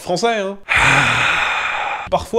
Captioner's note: deep, exasperated sigh